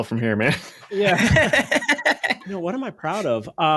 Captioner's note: laughing